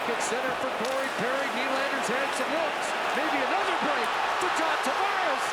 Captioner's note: crowd noise